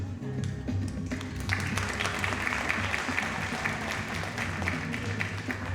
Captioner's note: audience applauding